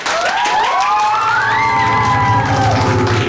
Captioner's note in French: acclamations